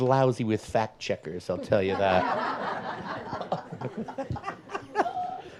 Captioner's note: audience laughs